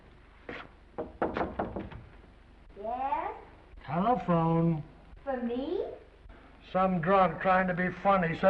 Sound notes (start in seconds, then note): 0.9 knocking